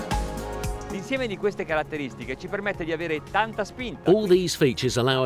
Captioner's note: speaking foreign language